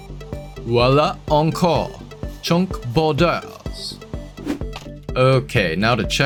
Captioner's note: bad French Accent